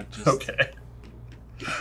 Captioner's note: laughing